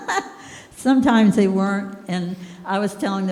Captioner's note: laughing